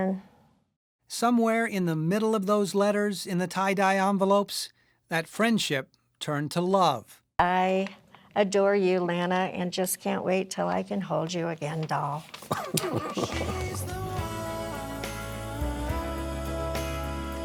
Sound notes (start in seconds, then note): 12.3 laughing